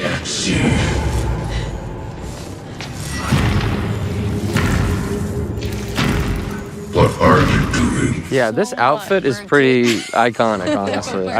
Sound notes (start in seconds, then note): 0.0 laughs; 2.7 footsteps thudding; 3.3 dramatic music